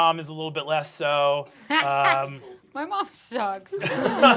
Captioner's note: laughs